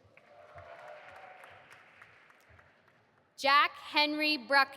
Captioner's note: audience applauding